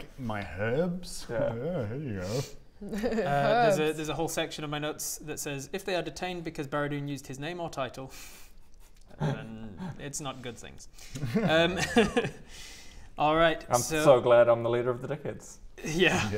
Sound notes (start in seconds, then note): 11.2 devious giggles